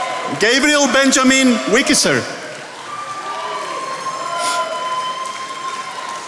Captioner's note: attendees applauding